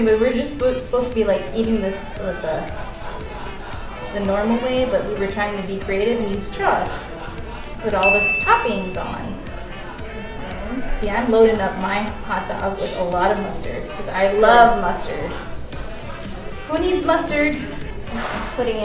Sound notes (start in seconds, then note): 8.0 bell rings